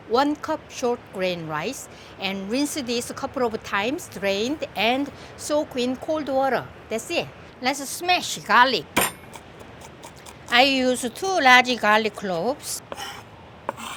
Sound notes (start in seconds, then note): 8.5 smashing sound; 9.0 chopping sound